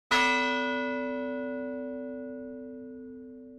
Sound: bell rings

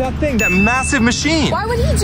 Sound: ding sounding

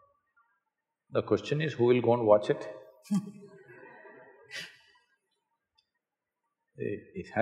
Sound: laughs

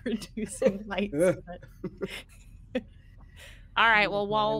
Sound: person laughing

